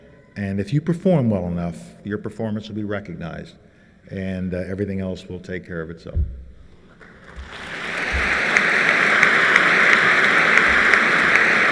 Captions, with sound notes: And if you perform well enough, your performance will be recognized and everything else will take care of itself. [applause]